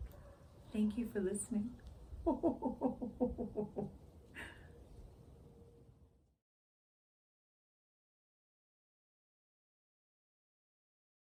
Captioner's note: ho-ho-ho giggles